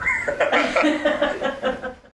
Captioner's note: laughter